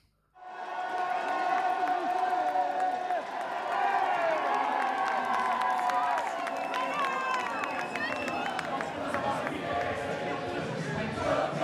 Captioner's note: crowd noise; audience chanting